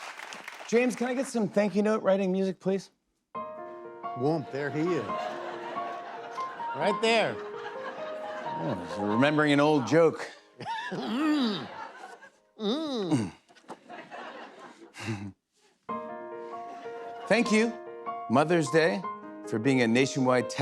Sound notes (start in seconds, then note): 7.2 laughter; 14.1 chuckles